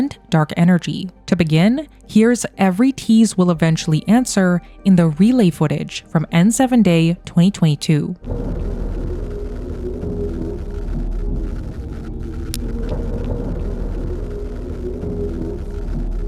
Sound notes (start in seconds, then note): 8.2 relay footage droning